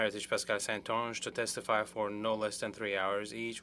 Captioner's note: speaking French